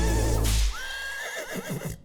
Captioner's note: horse neighs